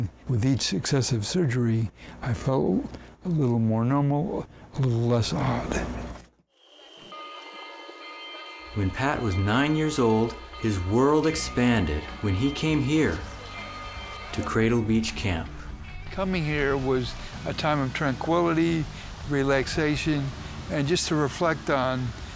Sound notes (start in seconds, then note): 6.9 bell clanging